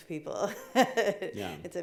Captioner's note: laughing